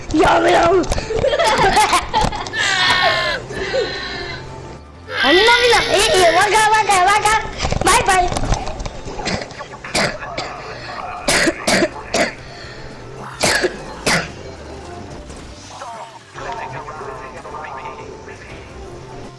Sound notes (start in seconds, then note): 1.0 brothers laughing; 9.2 coughing